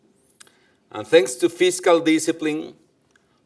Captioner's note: none